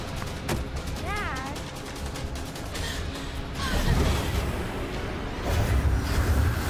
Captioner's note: Melissa sobbing